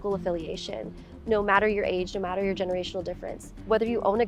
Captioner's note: conversing indistinctly